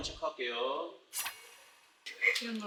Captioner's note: whoosh